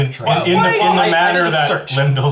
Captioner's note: yelling